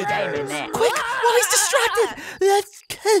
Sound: makes a shaky noise

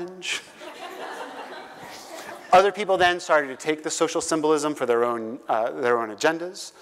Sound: laugh

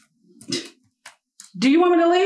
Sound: keyboard clicking; scoffs

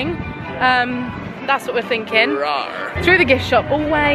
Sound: roars

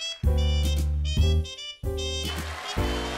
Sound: cheers and applause

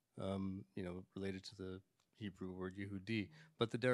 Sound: speaks in Hebrew

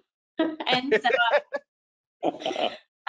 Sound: chuckles; laughing

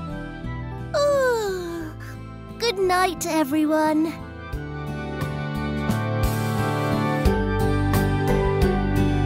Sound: yawns

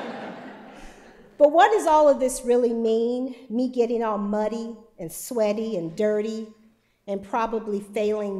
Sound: laughter

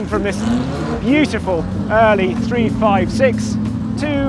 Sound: car engine revving

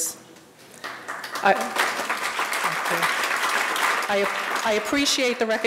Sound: audience applauding

